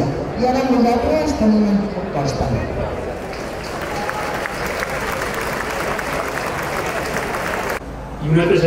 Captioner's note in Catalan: Aplaudiment